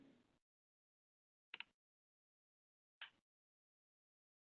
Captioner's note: clicking